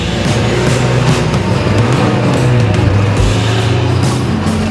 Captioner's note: car engines roar